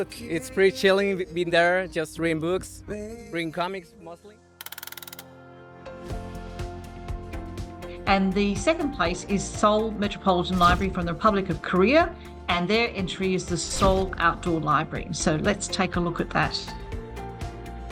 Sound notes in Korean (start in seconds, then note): 4.6 드르륵거리는 효과음; 5.9 잔잔한 음악